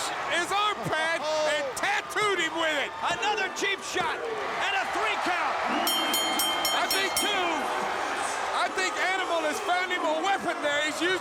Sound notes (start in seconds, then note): 5.8 bell ringing; 6.5 crowd cheering